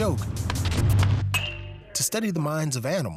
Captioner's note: bat thwaps